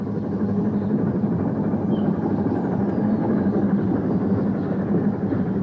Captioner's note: train passes